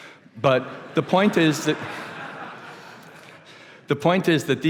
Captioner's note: laughter